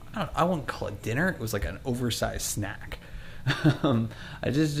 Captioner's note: laughs